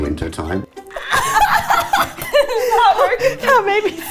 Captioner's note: both laughing